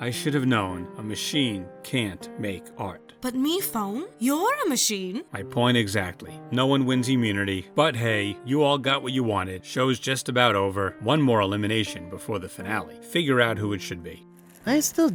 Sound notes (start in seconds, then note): none